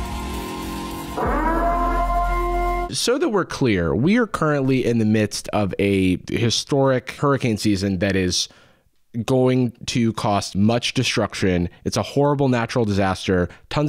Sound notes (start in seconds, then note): 0.0 air raid siren